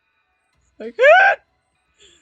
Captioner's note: car screech noise